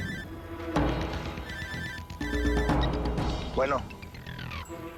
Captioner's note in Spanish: Suena el celular